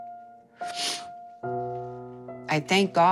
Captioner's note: sniffs